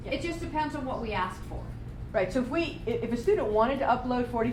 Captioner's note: none